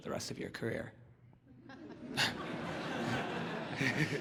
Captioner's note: laughter